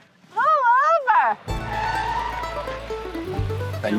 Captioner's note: tires screech